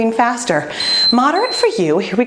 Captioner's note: timer beeping